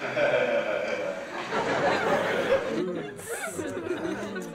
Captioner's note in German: Lachen des Musikers und des Publikums